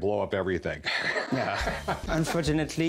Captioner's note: laughs